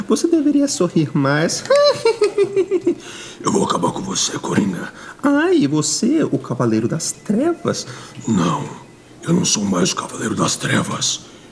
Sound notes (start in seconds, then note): 1.6 laughs